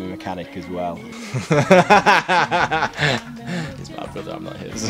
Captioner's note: laughing